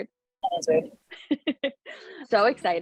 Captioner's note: laughing